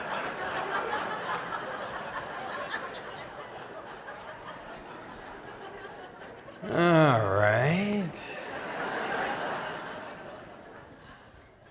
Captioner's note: laughter